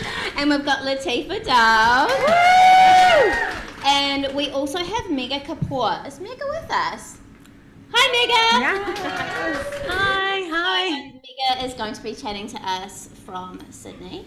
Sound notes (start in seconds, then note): 2.0 audience applauds and cheers; 8.5 audience applauds